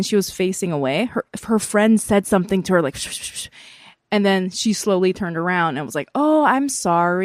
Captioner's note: whispers